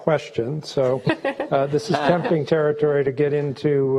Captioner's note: laughing